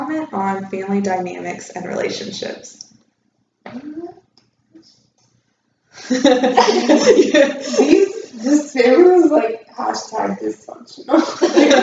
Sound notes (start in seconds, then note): 6.0 laughter